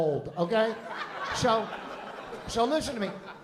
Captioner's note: laughter